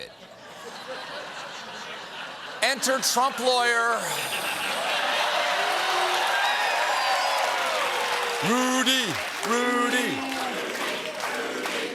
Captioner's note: laughter